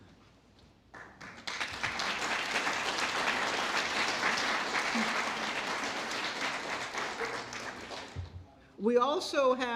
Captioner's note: applause